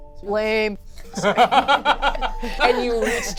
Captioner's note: laughs